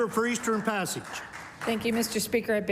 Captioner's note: applause